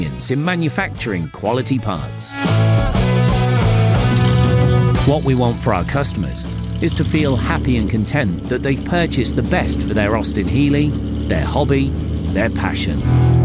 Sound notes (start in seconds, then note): 3.1 rhythmic rock music; 3.9 engine starting up